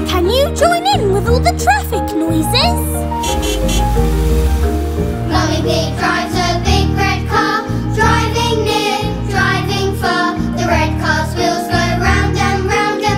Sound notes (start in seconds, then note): 2.6 beeping; 5.2 singing